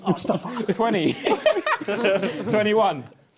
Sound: both laughing

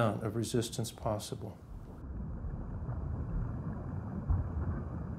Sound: water bubbling noises

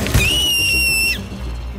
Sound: shrieking sound

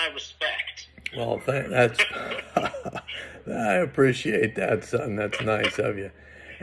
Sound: laughs

